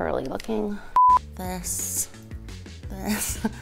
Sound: digital beep

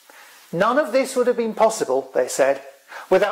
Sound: none

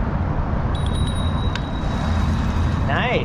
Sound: bell rings

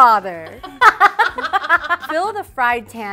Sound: laughter

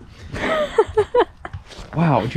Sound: laughs

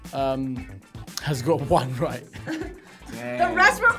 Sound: laughing

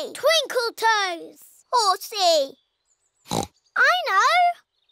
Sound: oinks

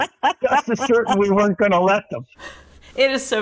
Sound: laughing

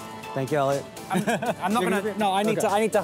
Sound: laughing

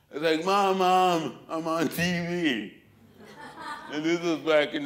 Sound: laughter

